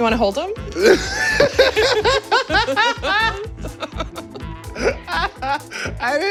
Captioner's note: laughs